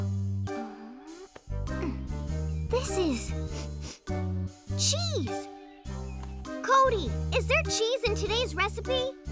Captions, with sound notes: This is... [sniffs] cheese. Codi, is there cheese in today's recipe?